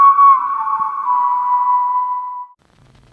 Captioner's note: siren wailing